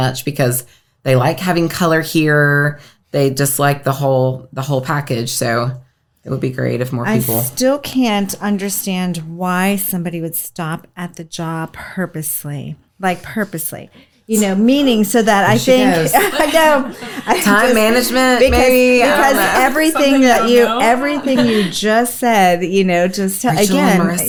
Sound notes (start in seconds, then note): 15.4 laughs